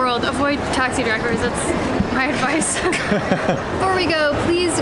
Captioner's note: both laughing